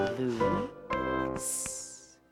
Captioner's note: making "s" sound